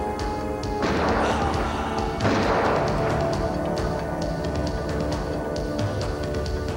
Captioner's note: gun firing; groaning